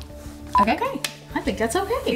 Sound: claps

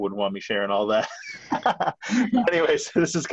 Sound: laughs

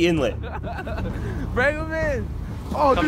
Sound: laughing

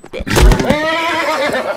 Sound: smacks; smack; neigh

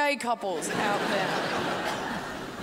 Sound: crowd laughs

